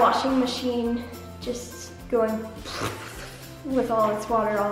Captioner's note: blows lips